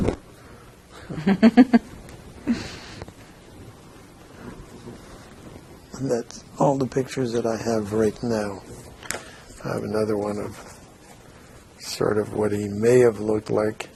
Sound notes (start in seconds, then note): 1.0 laughing